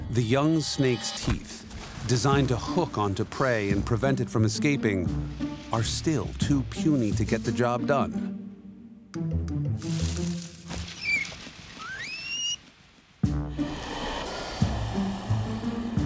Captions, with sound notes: The young snake's teeth, designed to hook onto prey and prevented from escaping, are still too puny to get the job done. [SQUEAKING]